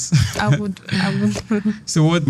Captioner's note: laughs